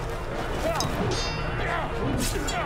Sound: metal clanging

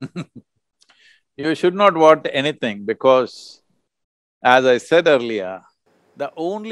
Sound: laughs

